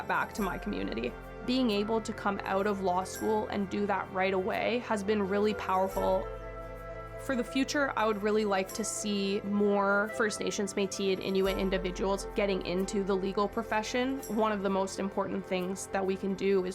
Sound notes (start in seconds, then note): none